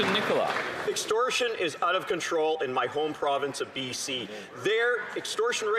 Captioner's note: some Applause